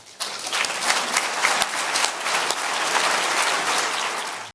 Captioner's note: audience applause